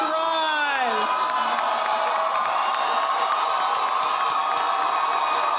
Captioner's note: audience applauding